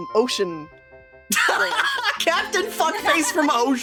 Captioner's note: laughing